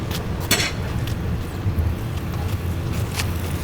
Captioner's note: metal clangs